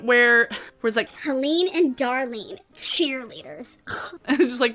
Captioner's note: scoffs